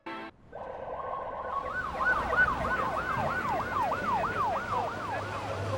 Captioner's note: sirens blaring